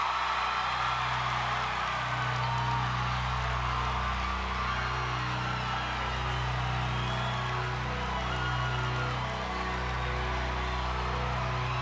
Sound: crowd screams

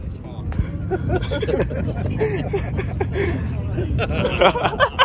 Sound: men laughing; adult & on video laughing

